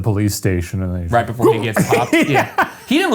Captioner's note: laughs